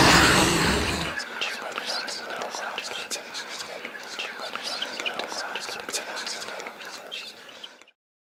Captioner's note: transition to quiet, eerie whispers